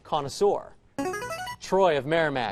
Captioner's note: buzzer